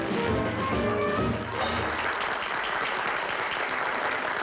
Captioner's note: applause